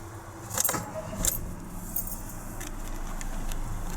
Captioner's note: starting up car engine